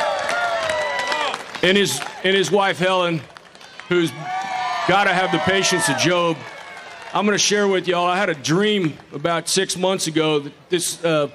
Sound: applause

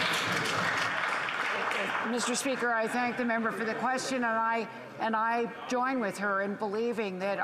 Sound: applause

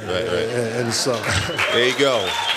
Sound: applause

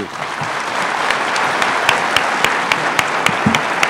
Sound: applause

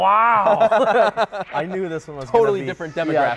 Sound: laughing

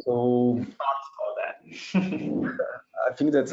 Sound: chuckling

